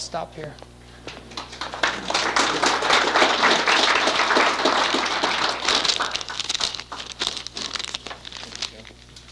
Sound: applause

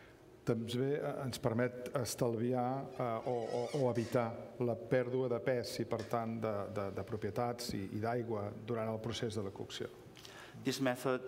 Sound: speaking catalan

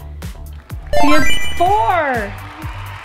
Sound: chimes

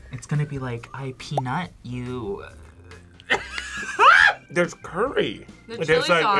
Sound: laughs

